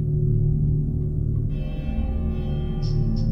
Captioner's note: church Bell rings